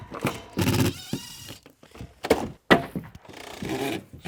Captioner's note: wood thudding; drill whirring